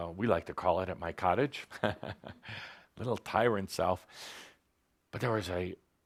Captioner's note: Tobias chuckles